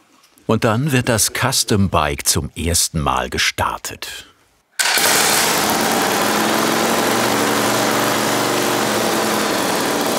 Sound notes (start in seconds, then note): 4.8 starter noise; 4.8 sporty engine noise